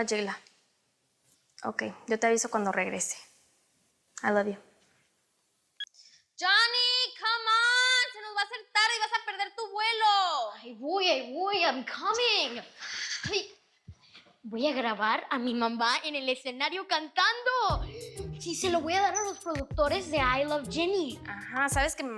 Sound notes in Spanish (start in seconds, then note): none